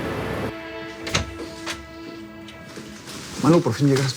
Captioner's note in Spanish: Sonido al abrir la puerta